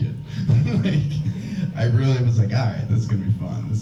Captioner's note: laughs